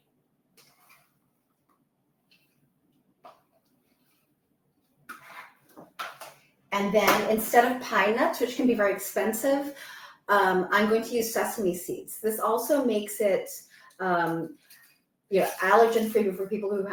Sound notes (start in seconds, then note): 4.8 item shuffles